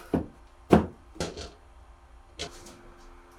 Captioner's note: none